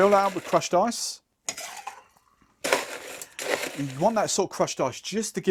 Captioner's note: ice clinking in glass